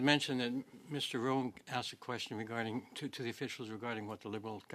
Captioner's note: speaking French